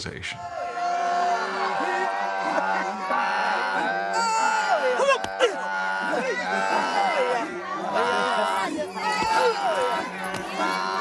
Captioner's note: chanting in native tongue